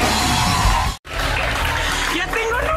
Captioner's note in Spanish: aplausos